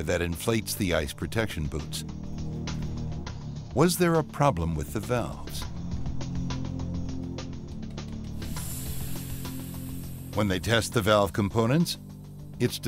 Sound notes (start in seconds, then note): 2.1 dramatic music; 5.4 dramatic music; 8.0 valves hissing